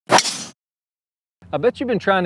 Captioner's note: rapid swoosh